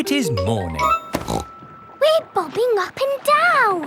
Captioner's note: snorts